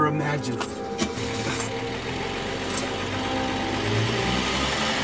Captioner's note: car starting